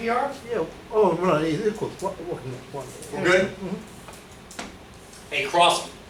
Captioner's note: murmurs